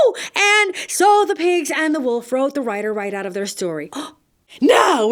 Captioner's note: gasp!